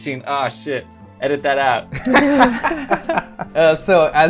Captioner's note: laughter